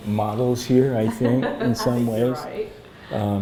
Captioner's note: laughs; laughter